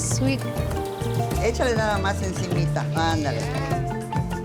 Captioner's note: speaks Spanish